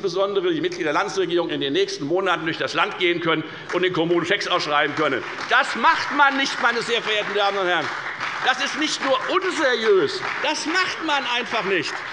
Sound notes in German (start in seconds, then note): 7.7 Beifall bei der FDP und der SPD